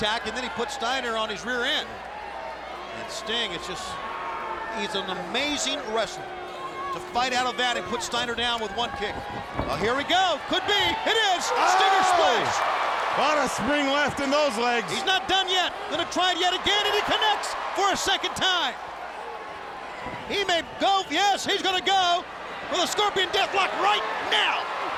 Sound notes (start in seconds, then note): 12.5 crowd cheering